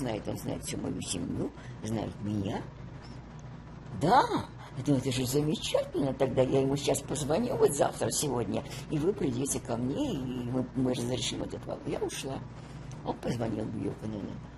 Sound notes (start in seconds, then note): none